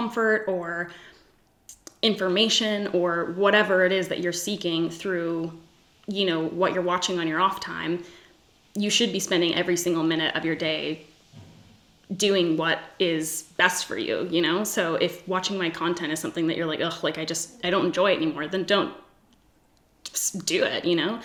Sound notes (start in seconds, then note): 16.9 scoffs